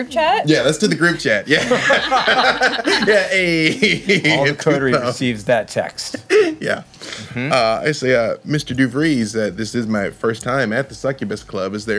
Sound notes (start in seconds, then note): 1.5 laughing